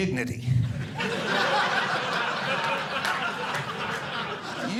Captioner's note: audience laughing